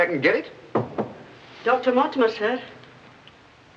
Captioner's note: knocking